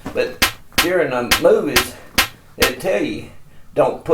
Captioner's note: gun pops